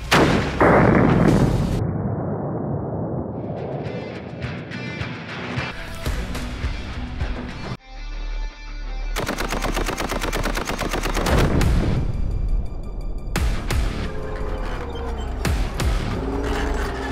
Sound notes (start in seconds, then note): 0.1 multiple gun shots; 5.5 upbeat music; 9.2 multiple gun shots; 12.2 upbeat music